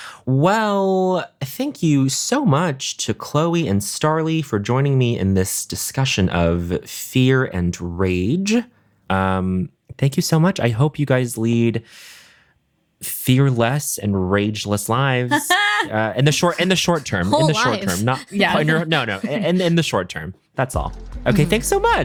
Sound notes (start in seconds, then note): 15.3 chuckling